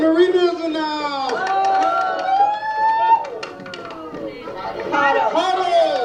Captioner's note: shouting